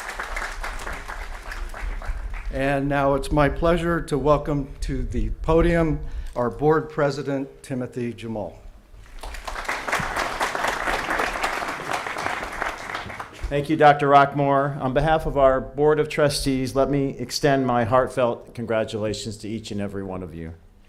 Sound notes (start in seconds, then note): 9.0 applause